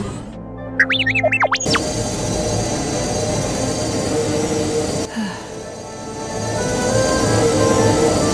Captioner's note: sigh